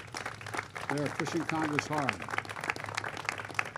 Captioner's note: applause